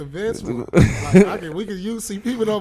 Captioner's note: laughing